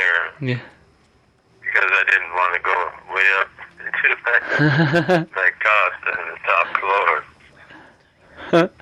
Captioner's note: laughter